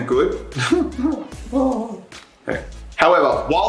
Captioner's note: chuckles